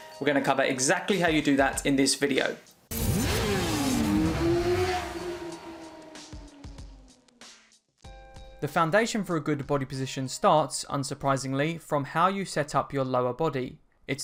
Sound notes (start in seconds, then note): 2.9 motorcycle revving; 5.4 upbeat music